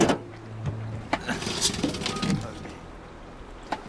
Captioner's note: sputters